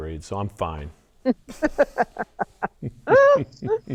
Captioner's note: laughs